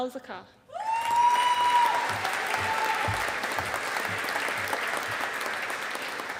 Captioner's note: audience applauding